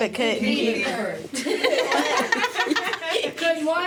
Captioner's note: laughter